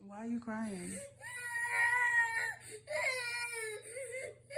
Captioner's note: sobs